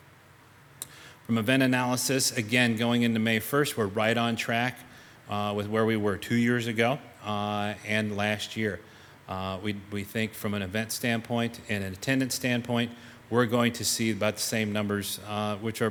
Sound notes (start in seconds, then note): none